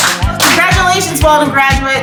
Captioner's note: clapping